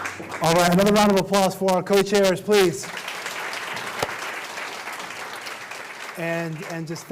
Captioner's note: applause